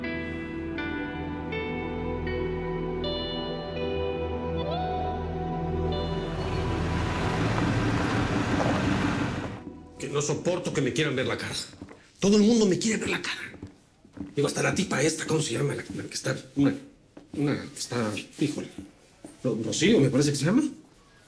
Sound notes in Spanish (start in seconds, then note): 6.1 Ruido de motor de auto